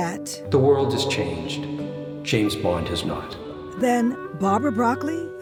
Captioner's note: echoing